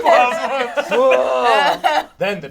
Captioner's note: groans